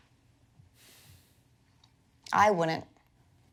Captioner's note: sighs